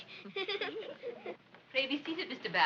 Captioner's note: giggling